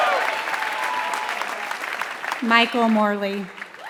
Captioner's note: applause